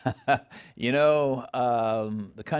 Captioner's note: laughs